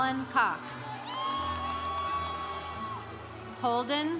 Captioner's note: congregation cheering